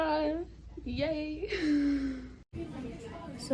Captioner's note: laughs